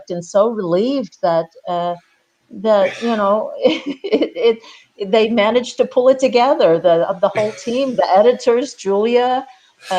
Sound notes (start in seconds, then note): 3.6 chuckles